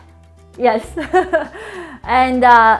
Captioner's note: laughs